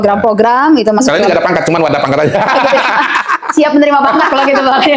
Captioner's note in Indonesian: tertawa